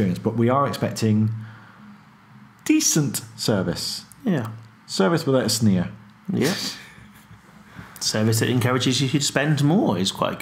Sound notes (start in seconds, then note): 7.0 chuckles